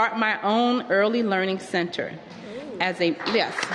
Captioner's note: applause